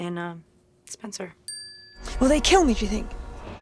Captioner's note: graphic chiming